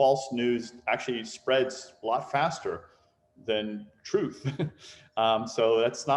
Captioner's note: chuckles